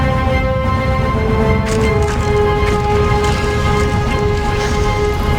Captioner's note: meteor whooshes and breaks